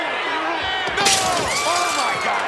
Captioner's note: glass shatters